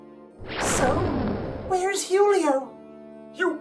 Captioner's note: booming SFX